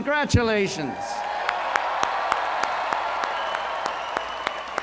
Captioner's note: cheers